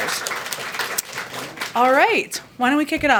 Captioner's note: applause